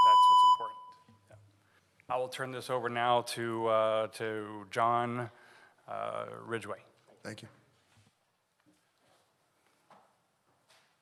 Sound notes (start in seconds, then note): 0.0 beep